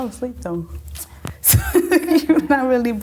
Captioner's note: laughing